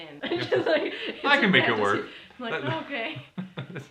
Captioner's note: laughter